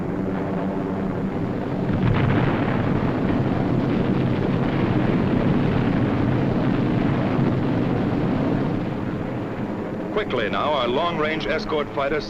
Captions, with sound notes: (booming) Quickly now our long range escort fighter